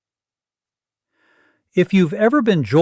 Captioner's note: pause